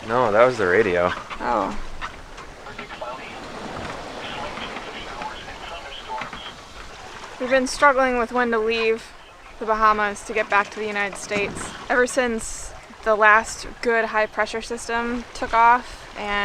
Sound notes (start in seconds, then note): 3.5 announcer On Radio